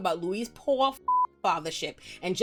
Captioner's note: beep